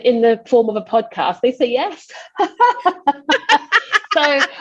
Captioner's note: hysterical laughter